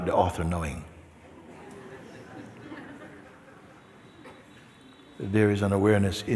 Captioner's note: laughter